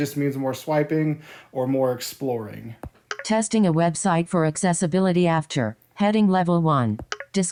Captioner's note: click